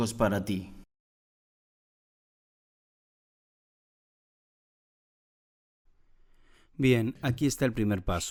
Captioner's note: Corte de sonido